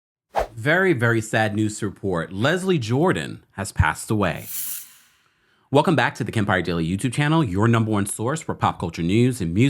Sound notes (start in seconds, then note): 0.4 air whooshes; 4.4 transition whirs